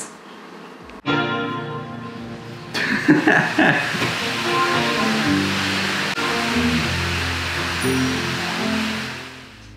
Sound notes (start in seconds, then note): 1.0 romantic music; 2.7 man laughs